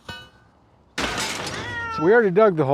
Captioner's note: crashing and cat meow